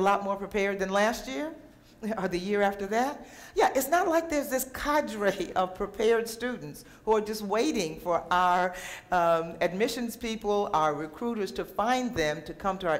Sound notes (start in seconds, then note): none